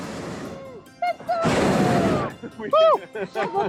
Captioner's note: hot air balloon roaring; laughing